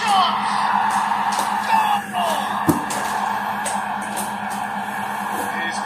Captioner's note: applause